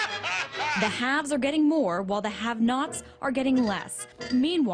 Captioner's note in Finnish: mielipuolista naurua; radio